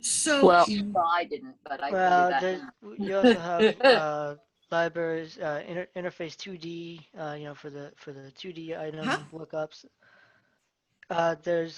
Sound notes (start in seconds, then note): 3.0 laughter drowns out conversation